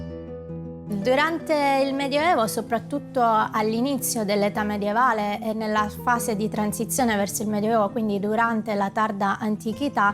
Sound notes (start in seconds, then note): 0.7 speaking in a foreign language